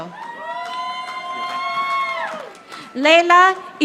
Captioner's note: audience applauding